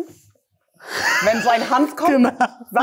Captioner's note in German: Gelächter